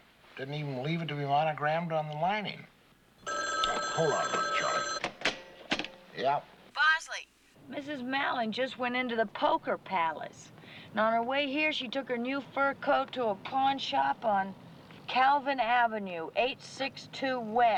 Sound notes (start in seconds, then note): 3.2 telephone rings